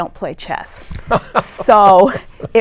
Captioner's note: laughs